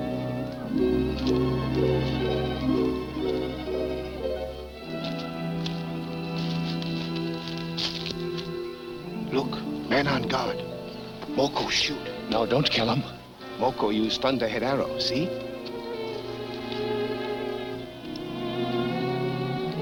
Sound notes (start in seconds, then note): 4.1 footsteps approaching